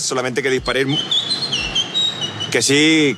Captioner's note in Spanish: Silbido